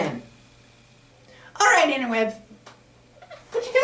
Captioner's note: white board squeaks in background